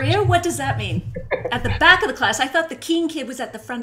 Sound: laughing

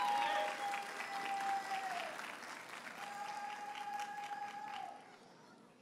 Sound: audience cheers and applauds

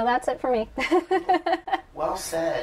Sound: laughter

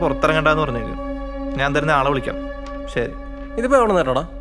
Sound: siren

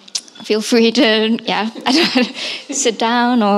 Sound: laughs

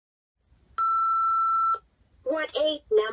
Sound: beeping

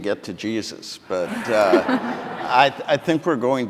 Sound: audience laughing

